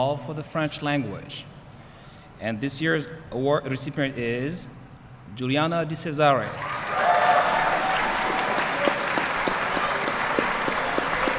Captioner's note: applause